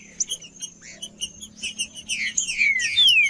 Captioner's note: trinca ferro cantando